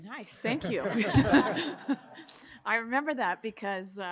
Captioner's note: all laughing